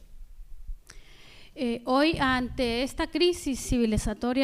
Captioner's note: speaking spanish